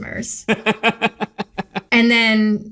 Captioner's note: laughing